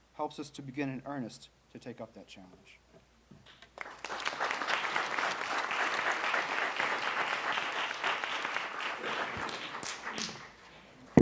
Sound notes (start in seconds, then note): 3.7 audience clapping